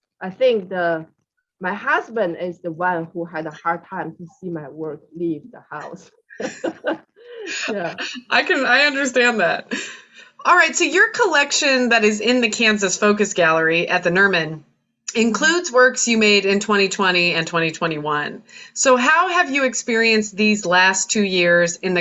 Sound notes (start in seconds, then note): 6.3 laughs